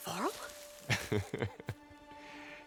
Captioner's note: laughs